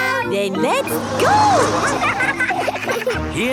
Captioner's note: laughing